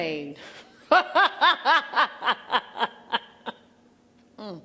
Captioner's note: she laughs loudly